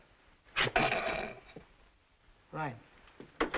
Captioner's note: snickering